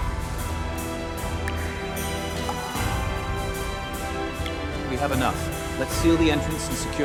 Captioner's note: water dripping